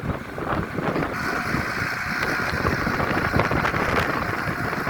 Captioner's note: tractor engine running